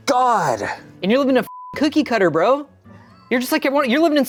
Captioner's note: beep